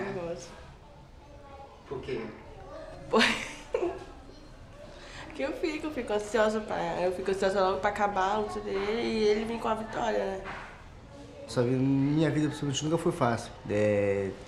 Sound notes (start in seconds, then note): 3.0 giggles